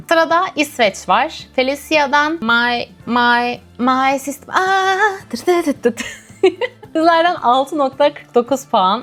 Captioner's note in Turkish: kahkaha